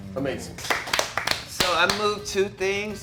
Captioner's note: movers clapping